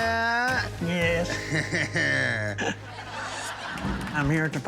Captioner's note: laughter